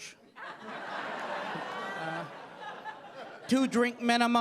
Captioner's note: audience laughing